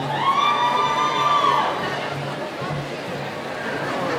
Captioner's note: cheering